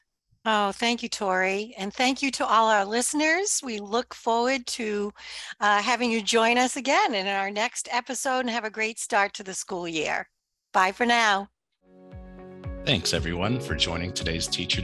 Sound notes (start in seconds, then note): none